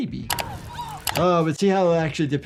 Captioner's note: skater screams